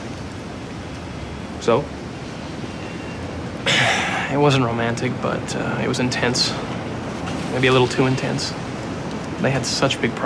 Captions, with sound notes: What would he know? So? [sighs] It wasn't romantic. But, uh, it was intense. Maybe a little too intense.